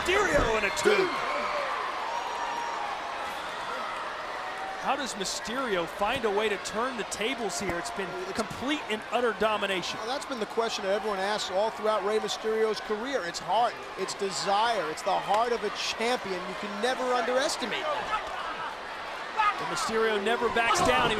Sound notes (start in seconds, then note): 1.2 crowd cheering; 17.6 people fighting; 18.1 crowd cheering